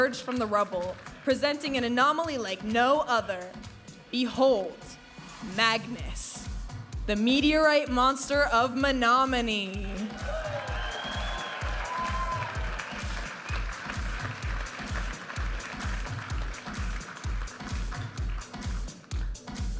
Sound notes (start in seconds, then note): 10.0 audience applauding and cheering; 15.4 vibrant music